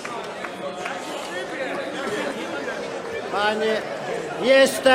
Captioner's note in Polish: Aplauz